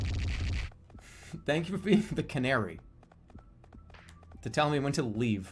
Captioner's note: holding out laugh